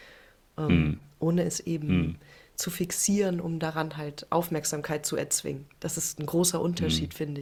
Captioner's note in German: räuspern